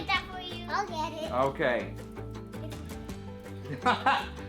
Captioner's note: laughs